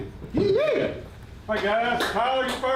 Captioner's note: yelping